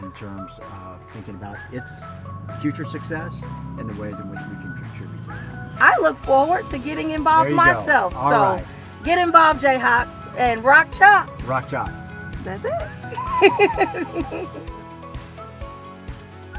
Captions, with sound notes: in terms of thinking about its future success and the ways in which we can contribute to that. - I look forward to getting involved myself. - There you go, all right. - So get involved, Jayhawks. - And Rock Chalk. - Rock Chalk. - That's it. (laughs) (bright music)